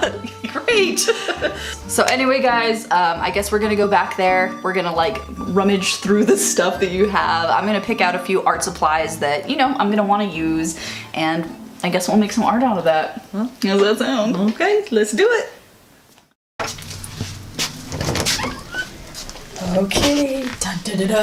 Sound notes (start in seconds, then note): 13.1 southern accent; 20.0 imitates drumroll